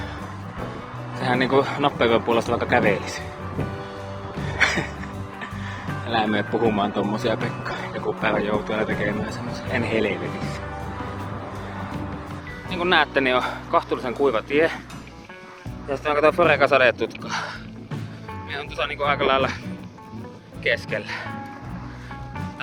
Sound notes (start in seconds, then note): 4.4 laughter